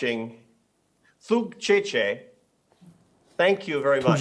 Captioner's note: speaking foreign language